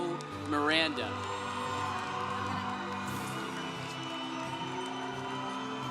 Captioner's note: congregation cheering